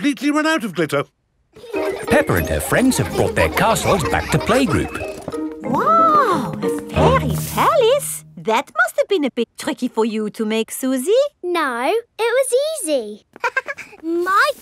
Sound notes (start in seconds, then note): 1.5 children laughing; 13.4 chuckles